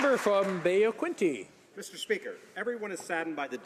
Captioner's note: some Applause